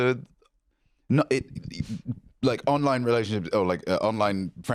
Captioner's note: stammers